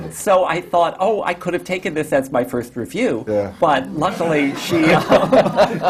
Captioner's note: laughter